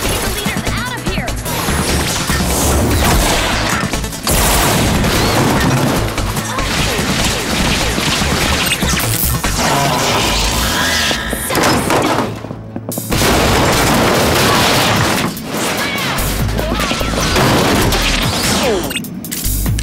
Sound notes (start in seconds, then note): 3.1 grunting; 4.2 gunfire; 8.3 squeal; 13.1 crashing